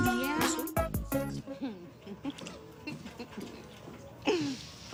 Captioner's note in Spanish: Risas